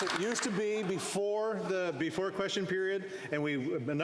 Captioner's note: applause